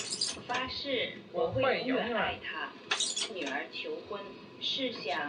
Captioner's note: woman on tape speaking Chinese; speaking Chinese